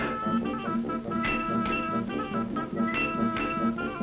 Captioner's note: clapping